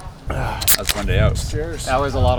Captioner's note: man exhaling